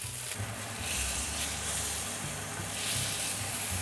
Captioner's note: sizzling sound